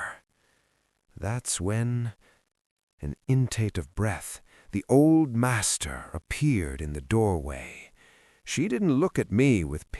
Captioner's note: small intake of breath